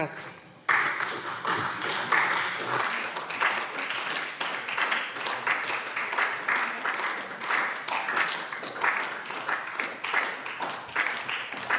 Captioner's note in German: Beifall SPD